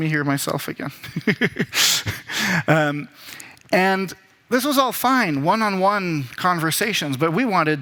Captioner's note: laughs